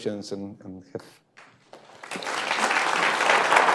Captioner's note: applause